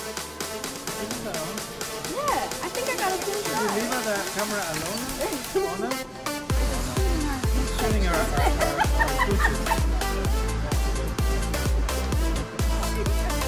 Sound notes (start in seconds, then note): 8.3 laughing